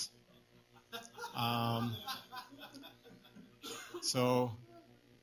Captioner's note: laughter